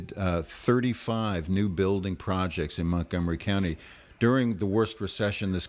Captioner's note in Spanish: Hablando ingl\s